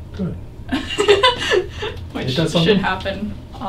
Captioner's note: laughing